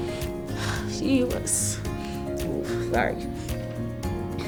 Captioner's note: breathing deeply